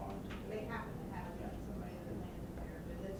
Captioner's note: voiceover